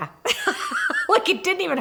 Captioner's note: laughs